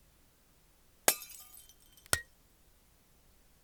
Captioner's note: glass breaking